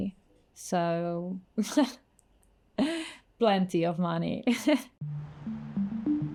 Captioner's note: laughs